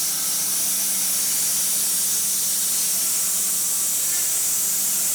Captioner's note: none